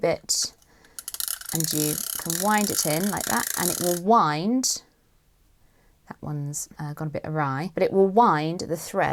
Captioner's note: winding noises